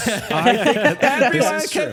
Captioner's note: both laughing